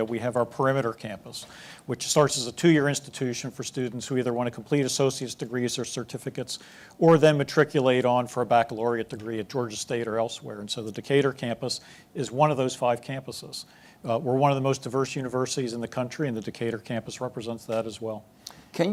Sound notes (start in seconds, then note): none